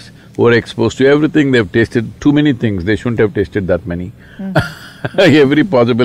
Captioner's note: laughs